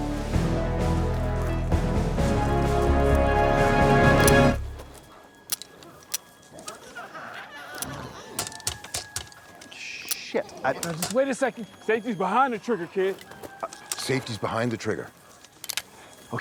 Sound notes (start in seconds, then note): 0.0 dramatic music; 5.4 rocket launcher clicking; 7.8 glowzies growling